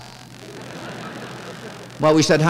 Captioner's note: laughter